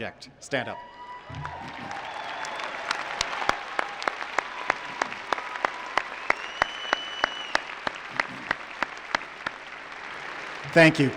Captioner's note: cheering and applause